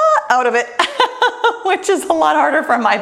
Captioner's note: laughs